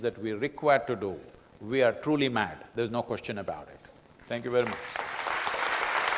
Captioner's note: applause